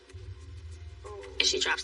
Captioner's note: TV ststatic hisses